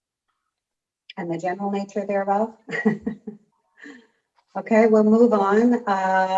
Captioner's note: chuckling